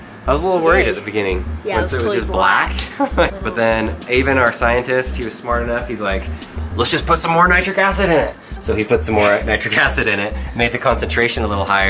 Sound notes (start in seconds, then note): 0.0 voiceover; 3.3 voiceover